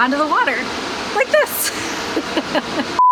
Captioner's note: laughter